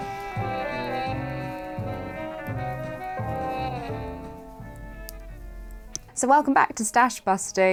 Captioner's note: hands rubbing together; needles clicking